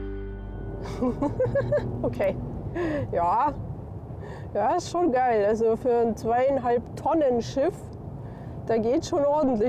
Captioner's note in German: gelächter